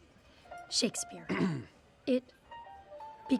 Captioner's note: clears throat